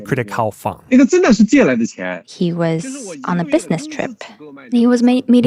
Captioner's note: speaking Mandarin Chinese